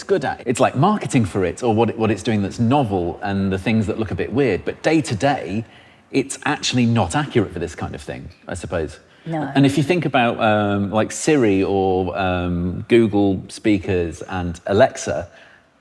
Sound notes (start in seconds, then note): none